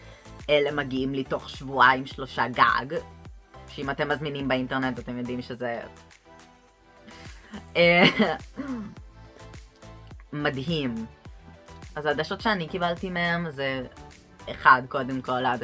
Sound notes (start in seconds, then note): 8.0 laughs